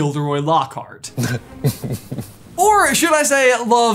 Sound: smarmy laugh

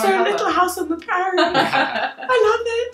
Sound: laughing

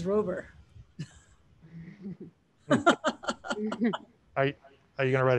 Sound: panelists laughing

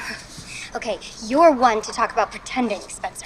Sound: chuckles

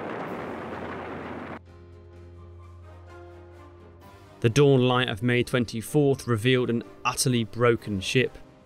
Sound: explosion

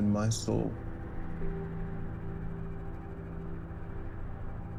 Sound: wind blowing; orchestral music continues

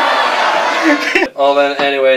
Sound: laughter

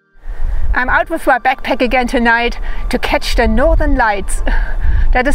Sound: laughs

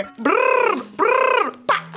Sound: trills tongue

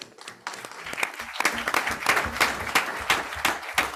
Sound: group applauds

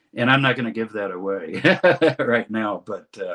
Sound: laughs

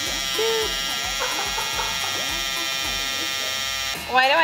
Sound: filming crew laughing

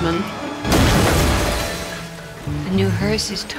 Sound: bus crashes

